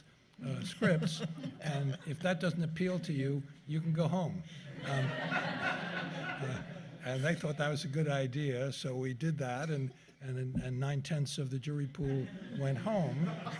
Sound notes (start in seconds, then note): 0.7 laughter; 4.6 laughter